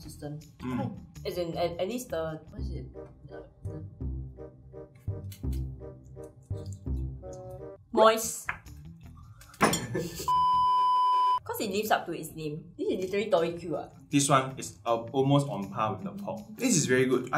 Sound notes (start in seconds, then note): 9.2 laughs